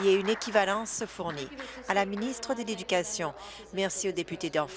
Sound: applause

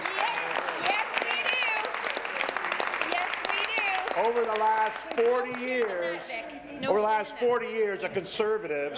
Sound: applause

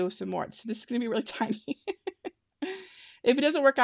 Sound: laughing

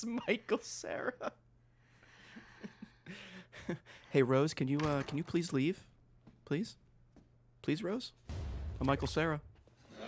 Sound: laughs; Michael Cera voice

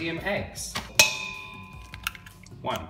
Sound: metal clanks

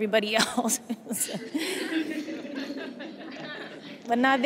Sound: laughter

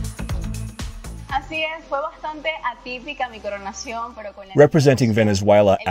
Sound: speaking foreign language

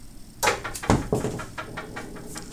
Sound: thud

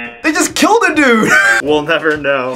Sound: buzzer rings; laughs

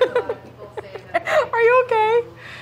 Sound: laughs

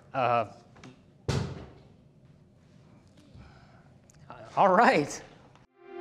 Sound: bottle hitting floor

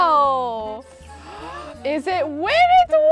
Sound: gasps

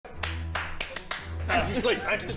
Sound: clap clap clapclapclap

